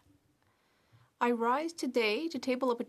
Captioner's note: speaking French